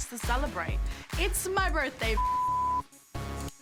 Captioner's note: beep